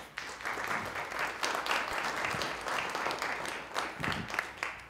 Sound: audience clapping

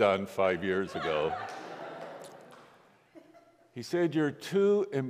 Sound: congregation laughs

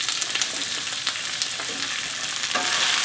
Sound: frying

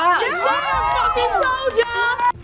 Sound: contestants cheering

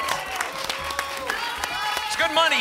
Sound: applause

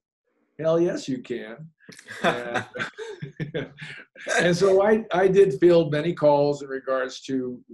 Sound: laughs

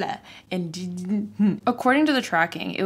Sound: stutters

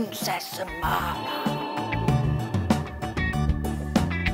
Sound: magic chimes

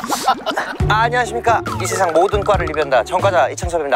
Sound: speaking faster because he's in a hurry

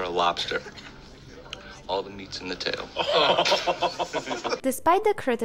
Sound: laugh

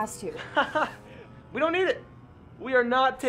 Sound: laughs

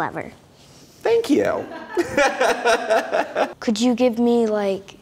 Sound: laughing

